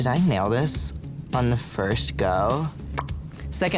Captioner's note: lip smacking